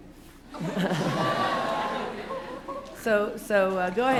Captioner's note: laughter